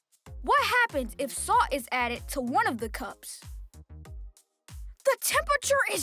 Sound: none

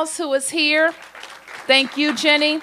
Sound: applause

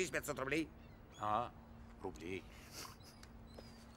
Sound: with irony

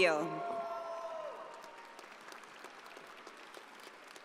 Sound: audience applauding

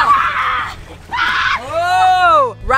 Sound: screaming

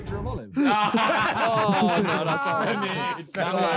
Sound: men laughing

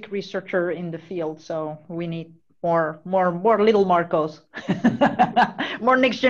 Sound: chuckles

